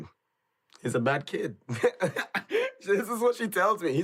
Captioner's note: laughs